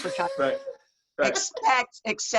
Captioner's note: laughs